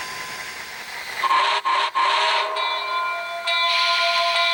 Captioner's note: whistle